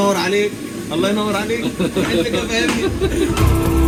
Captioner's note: speaking Arabic